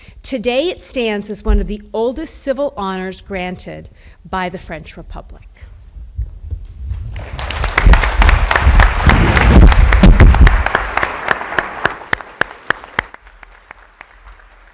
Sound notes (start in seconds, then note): 7.1 audience applauds